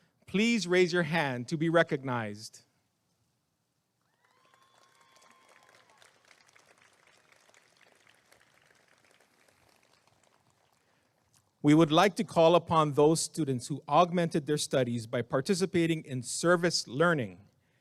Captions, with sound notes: please raise your hand to be recognized [applause and cheering] we would like to call upon those students who augmented their studies by participating in Service Learning